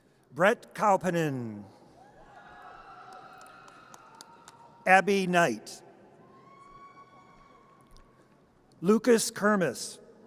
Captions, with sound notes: Brett Coupenin. (audience cheers) Abby Knight. (audience cheers) Lucas Kermis.